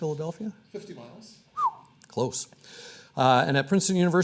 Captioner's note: whistles